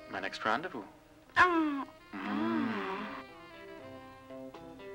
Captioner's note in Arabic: أنين